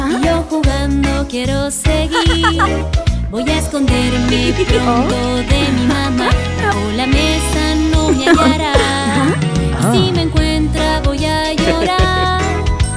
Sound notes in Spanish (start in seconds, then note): 2.1 Risas; 11.6 Risas